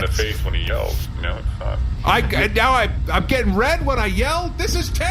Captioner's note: yelling